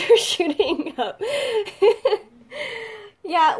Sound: laughs

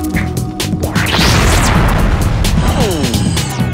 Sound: exploding; beeping

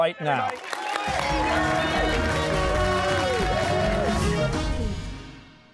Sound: cheers and applause

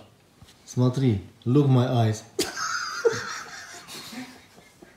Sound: laughing

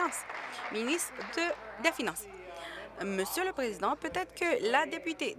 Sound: applause

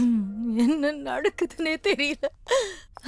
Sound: giggling

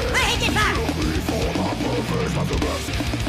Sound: growling

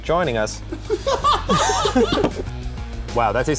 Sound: laughing

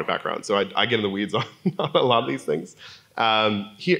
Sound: laugh

